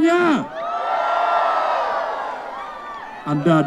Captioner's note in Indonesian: masyarakat berteriak